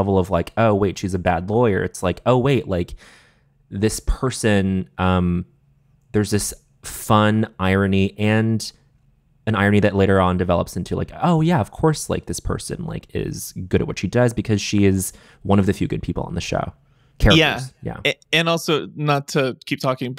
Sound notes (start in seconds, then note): none